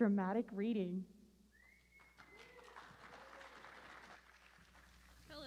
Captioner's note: cheers and applause